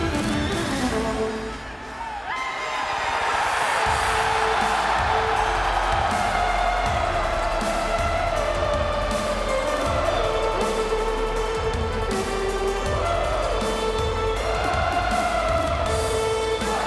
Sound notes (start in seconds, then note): 3.2 audience cheers